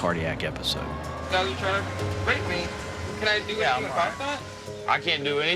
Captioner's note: sirens sounding